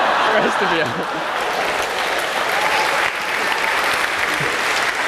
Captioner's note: applause